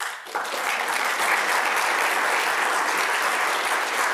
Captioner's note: audience applauding